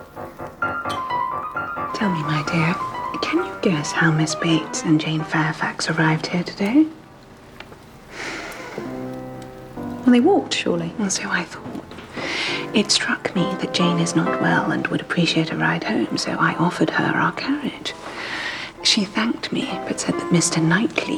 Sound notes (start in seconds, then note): 1.6 whispers